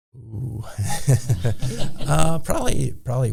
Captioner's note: both people laughing